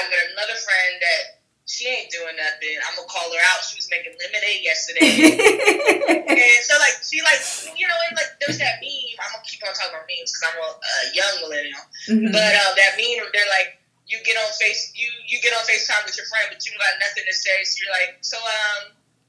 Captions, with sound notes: I've got another friend that she ain't doing nothing. I'm gonna call her out. She was making lemonade yesterday. [laughs] And so like she likes, you know, and like. There's that meme- I'm going to keep on talking about meme, cause I'm a young millennial that meme where like, you get on Face, you, you get on FaceTime with your friends, but you got nothing to say. So you're like, so, um,